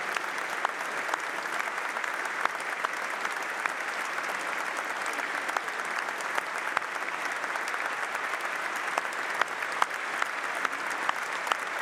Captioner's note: applause